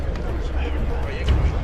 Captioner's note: indistinct chatter